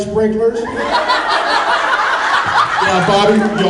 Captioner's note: laughs